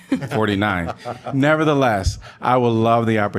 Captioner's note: laughter